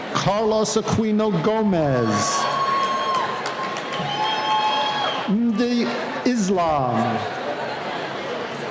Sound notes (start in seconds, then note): 1.4 cheering